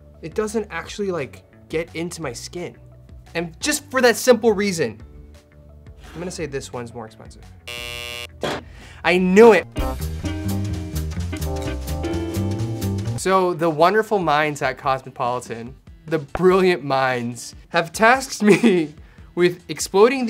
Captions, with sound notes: It doesn't actually like get into my skin. And just for that simple reason I'm gonna say this one's more expensive. (buzzer rings) I knew it. (jazzy music) So the wonderful minds at cosmopolitan the brilliant minds have tasked me with exploding